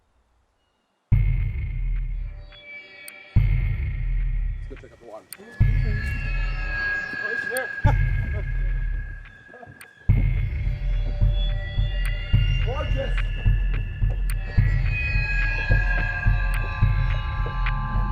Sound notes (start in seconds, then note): 1.1 ominous orchestral music; 4.8 group chattering; 14.5 ominous music continues